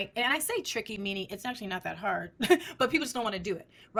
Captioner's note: chuckles